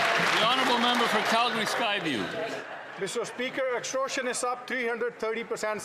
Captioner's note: some Applause